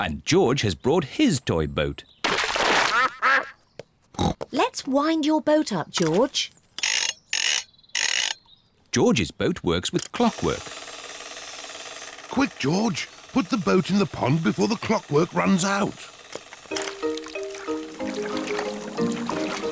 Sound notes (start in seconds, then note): 2.9 ducks quack; 4.2 snorts